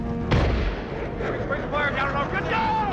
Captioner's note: rocket booms